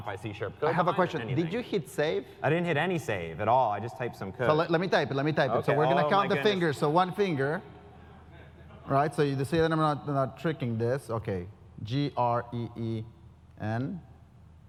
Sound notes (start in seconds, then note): 8.2 laugh